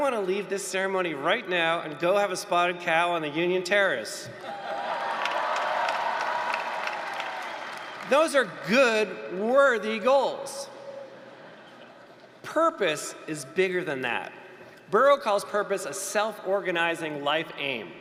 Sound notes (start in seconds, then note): 4.4 applause, cheering